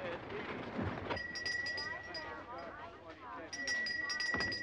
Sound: bell ringing

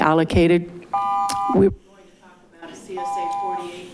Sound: alarm beeping

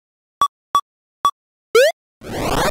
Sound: video game beeping

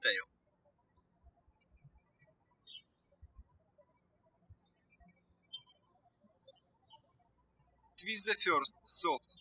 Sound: birds chirping

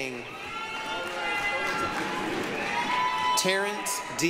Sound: applause, cheering

